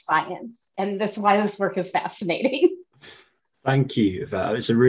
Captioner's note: chuckles